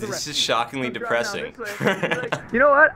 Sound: laughs

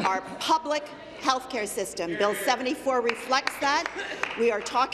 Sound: applause

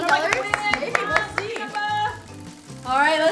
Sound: clapping

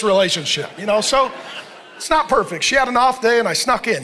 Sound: congregation laughing

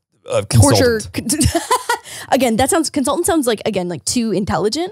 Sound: laughs

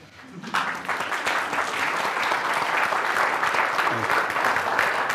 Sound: attendees applauding

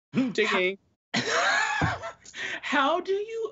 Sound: laughs

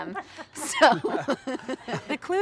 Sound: laughs

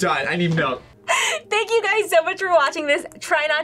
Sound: laughs

